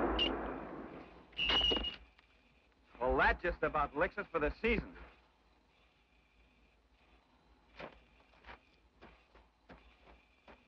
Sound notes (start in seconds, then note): 1.7 spikes clang